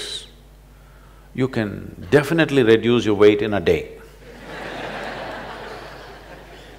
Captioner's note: laughter